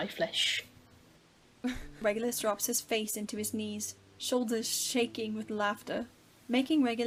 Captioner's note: Regulus laughs